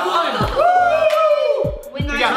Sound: they applaud and cheer

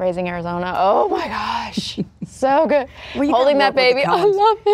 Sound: laughing

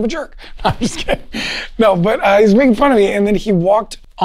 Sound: laughs

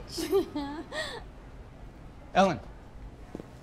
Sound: chuckling

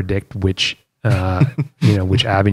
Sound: laughter

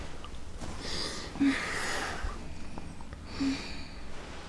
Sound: Youngwon takes a deep breath

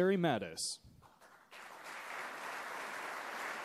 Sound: applause

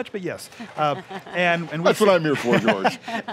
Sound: laughing

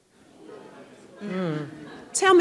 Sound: audience laughing

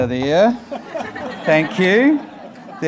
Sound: audience laughing

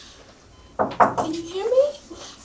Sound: knocking

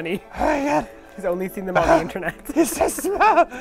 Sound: gurgling; gurgling excitedly; gurgling

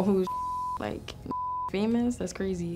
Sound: beep

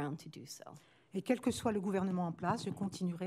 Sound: speaking french

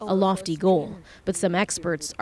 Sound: speaking alternate language

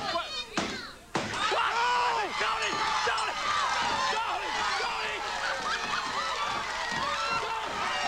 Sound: applause; screaming; laughter; screaming; applause

